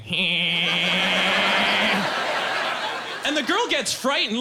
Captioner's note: laughing strangely